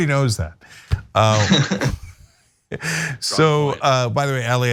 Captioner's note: laugh